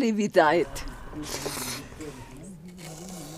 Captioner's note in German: Schlürfen